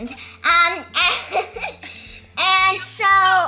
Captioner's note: laughs